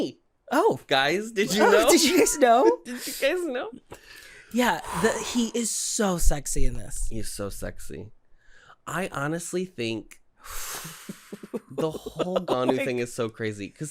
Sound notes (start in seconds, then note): 1.5 giggling; 6.2 deep exhale; 10.8 giggling